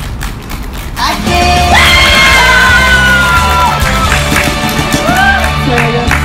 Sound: team cheers

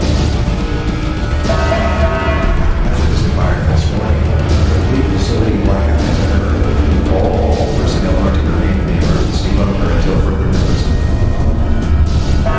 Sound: announcement Chime

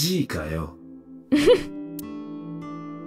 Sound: chuckles

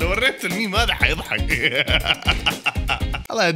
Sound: laughter

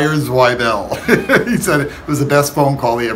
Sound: laughs

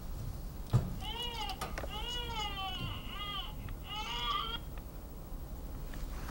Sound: crying

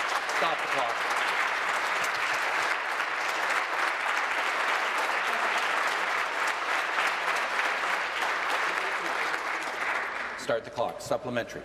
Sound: applause

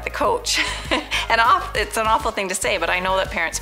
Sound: laughing

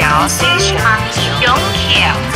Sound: Mandarin

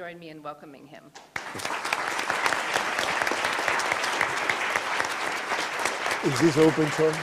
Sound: applause

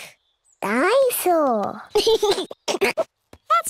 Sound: giggles

